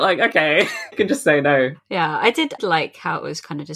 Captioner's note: laughs